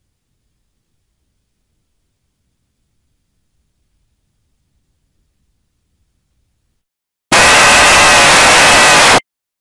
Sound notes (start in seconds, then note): 7.4 hiding screamer jumpscare sound